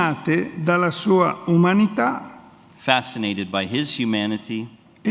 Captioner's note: speaks in Italian